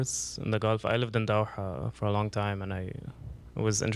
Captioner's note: non-english